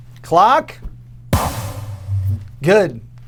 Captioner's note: poof